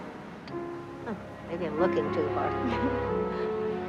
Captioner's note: chuckles